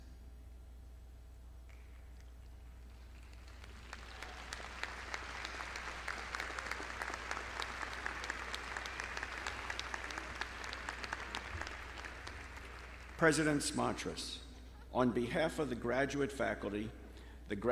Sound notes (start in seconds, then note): 3.7 audience clapping